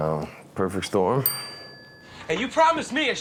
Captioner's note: bell rings